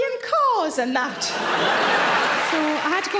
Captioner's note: audience laughing loudly